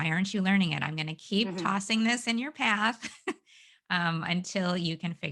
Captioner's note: giggles